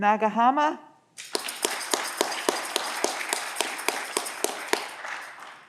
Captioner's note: audience clapping